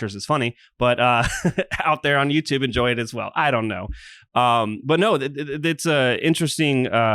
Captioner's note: laughs